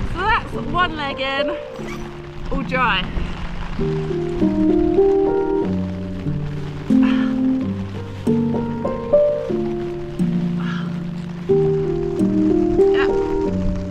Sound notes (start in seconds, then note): 4.3 rain sounds on tent and huffing around